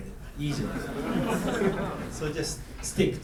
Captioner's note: students laughing